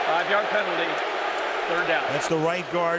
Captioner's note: booing